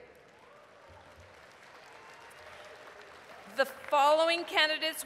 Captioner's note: applause